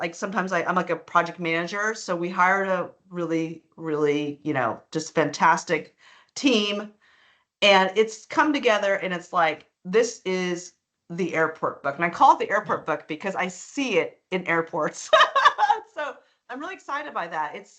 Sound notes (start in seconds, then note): 15.0 laughing